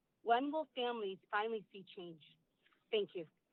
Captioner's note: none